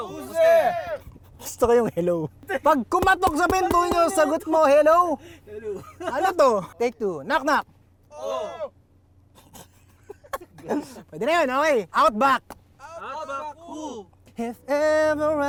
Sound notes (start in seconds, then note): 5.5 laughs; 9.3 laughs; 14.6 singing